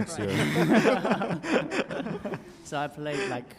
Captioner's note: laughing